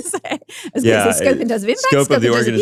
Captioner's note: laughs